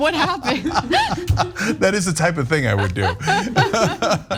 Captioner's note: laugh